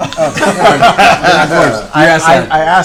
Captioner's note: laughter